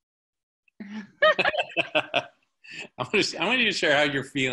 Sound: laughing loudly

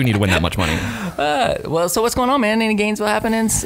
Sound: laughing

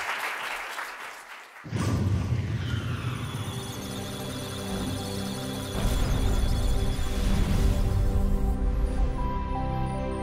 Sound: electronic sounds of data; musical tones

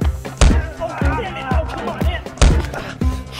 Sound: grunting

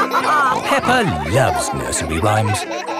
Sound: all laughing

